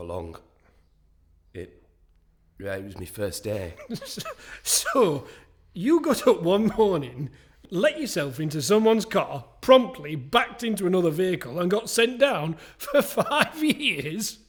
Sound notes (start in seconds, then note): 3.6 laughs; 6.8 laughter; 12.9 laugher